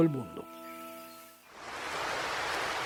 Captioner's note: waves sounds